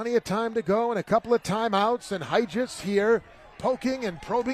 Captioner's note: applause